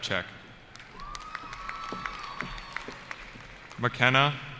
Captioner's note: cheering